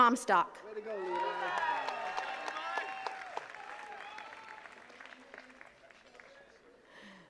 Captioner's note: attendees cheers and claps; attendees chattering